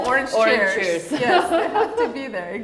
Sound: both laugh

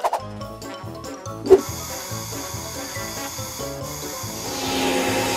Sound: spray can sounds

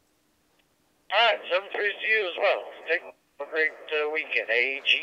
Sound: over Radio

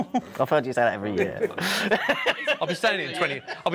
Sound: chuckling; laughter

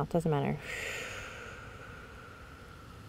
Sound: exhales slowly

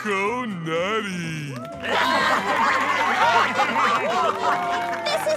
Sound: laughing

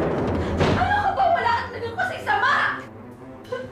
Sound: door slams shut; sobbing; tense music playing

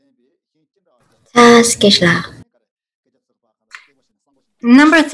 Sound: speaks in foreign language

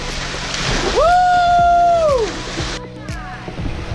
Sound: whoo-ing

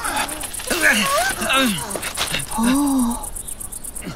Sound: man grunting

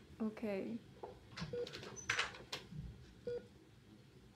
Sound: door opens

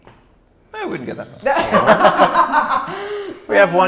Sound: all laugh

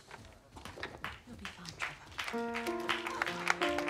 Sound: all clap

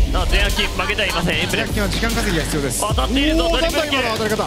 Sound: speaking foreign language

